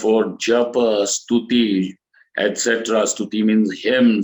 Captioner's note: sanskrit